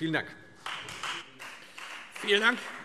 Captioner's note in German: Beifall Freie Demokraten